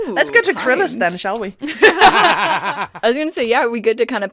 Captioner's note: laughter